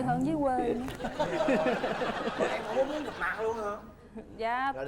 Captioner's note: laughing